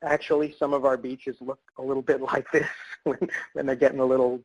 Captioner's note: laughs